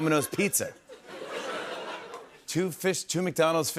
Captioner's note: laughter